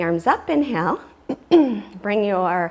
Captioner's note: clears throat